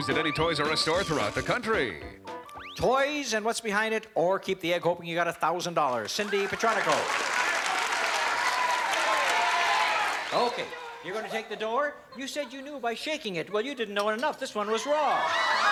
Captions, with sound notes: to be used at any Toys R Us store throughout the country. - Toys and what's behind it, or keep the egg, hoping you've got $1,000, Cindy Petronico? [AUDIENCE SHOUTING] - I'll take the door. - OK, you're going to take the door. You said you knew by shaking it. Well, you didn't know it enough. This one was raw.